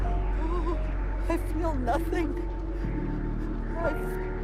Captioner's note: whimpers